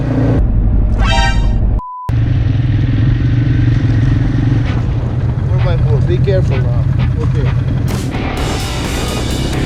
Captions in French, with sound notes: *Bruit d'alerte* 4x4 fait attention désormais *musique d'action*